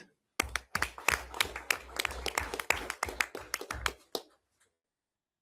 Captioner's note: everyone applauds